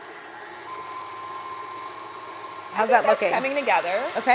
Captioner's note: mixer whirring